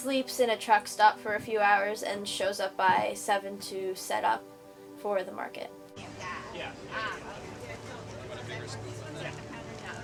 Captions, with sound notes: in a truck stop for a few hours and shows up by seven to set up for the market. (people chatting)